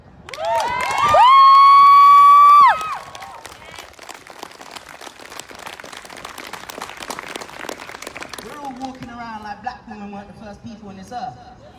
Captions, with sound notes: [Whooping] [Applause] We’re all walking around like Black women weren’t the first people on this Earth.